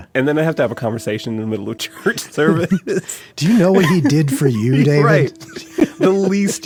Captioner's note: laughs